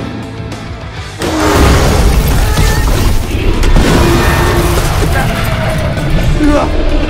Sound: Crashing and squealing Scorpius

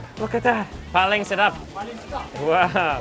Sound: speaks in foreign language; chef speaks in a foreign language

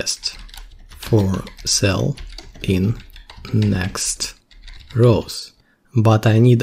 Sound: typing

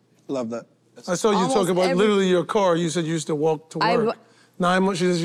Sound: none

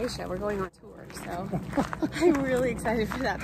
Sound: laughs

